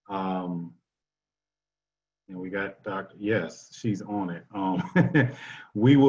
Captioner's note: laughter